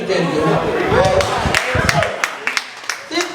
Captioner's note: applause